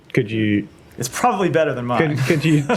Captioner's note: laughter